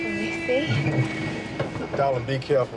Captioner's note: horn honks on street